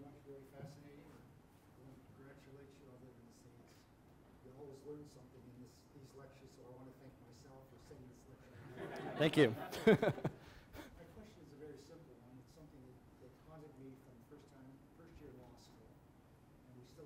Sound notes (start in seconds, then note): 8.6 audience laughs; 8.6 chuckles